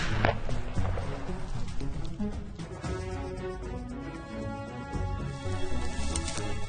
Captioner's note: gunshots